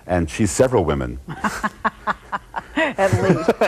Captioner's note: laughing